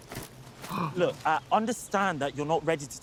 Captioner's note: Trixie gasps